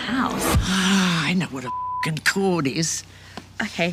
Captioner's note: sighs